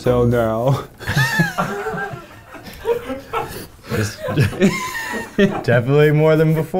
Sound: all laughing

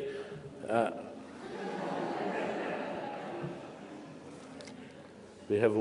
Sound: laughter

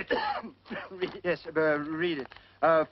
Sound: coughing

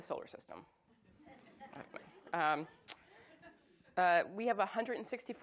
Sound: audience chuckles

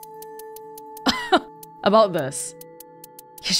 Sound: chuckles

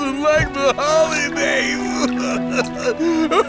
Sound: crying

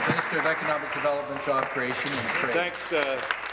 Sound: applause

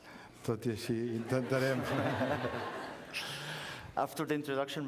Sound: laughter

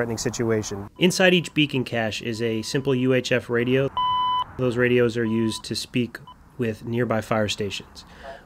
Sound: radio beeps

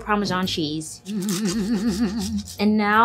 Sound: humming

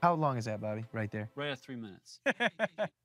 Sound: laughs

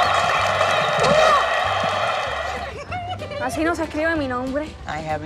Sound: Esti speaks in Spanish

